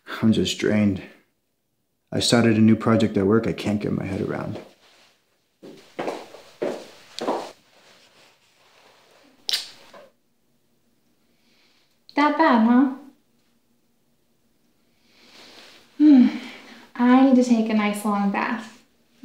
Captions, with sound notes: I'm just drained. I started a new project at work I can't get my head around. (heels clicking) - That bad, huh? (Lynne sighs) I need to take a nice, long bath.